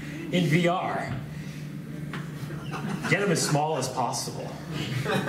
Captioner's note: laughs